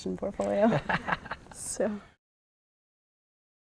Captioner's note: laughter